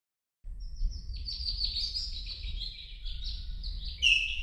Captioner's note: birds chirping